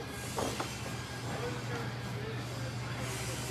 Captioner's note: metal grinding